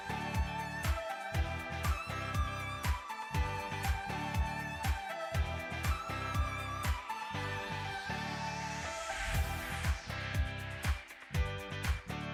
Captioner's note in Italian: Applauso